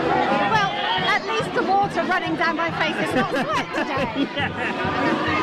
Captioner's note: laughter